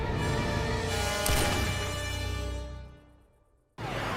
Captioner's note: gunshot